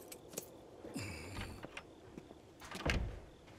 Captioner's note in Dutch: deur gaat open; deur klikt dicht